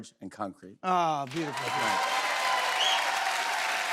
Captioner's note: cheers and applause